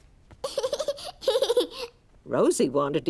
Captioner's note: giggles